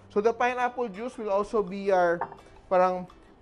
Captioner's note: clang